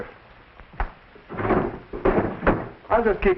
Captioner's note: drawer rattling